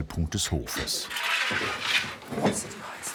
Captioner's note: clattering, murmur of voices